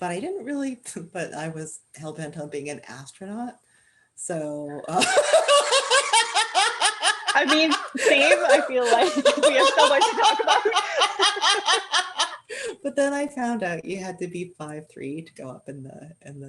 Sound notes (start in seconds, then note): 4.8 laughter